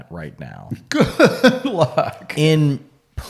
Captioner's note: laughs